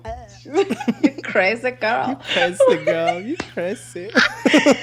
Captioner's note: laughs